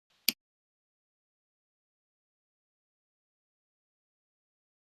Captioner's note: audio cuts out